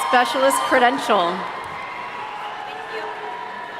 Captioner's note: audience cheering